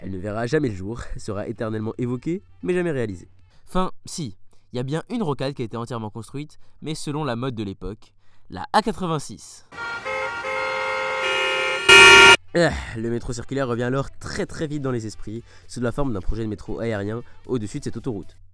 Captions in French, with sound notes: Elle ne verra jamais le jour, sera éternellement évoquée mais jamais réalisée. Enfin si, il y a bien une rocade qui a été entièrement construite mais selon la mode de l'époque : la A86. [Klaxons de voiture] [Klaxon de camion EARRAPE] Ergh... Le métro circulaire revient alors très très vite dans les esprits sous la forme d'un projet de métro aérien au dessus de cette autoroute.